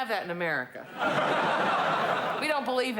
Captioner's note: laughter